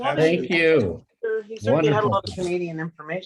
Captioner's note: audience chattering